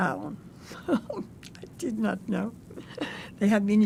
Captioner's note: laughing